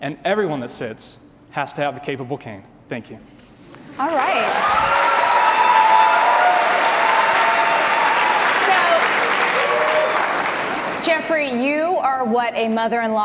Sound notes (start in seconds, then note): 4.0 audience applause and cheers